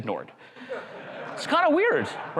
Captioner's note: crowd laughs